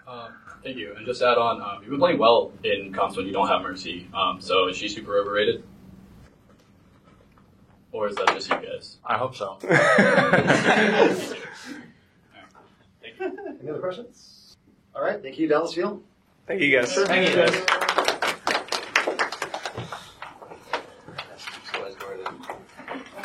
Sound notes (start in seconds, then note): 9.6 laughter; 16.8 applause